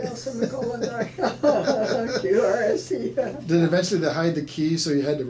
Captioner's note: laughing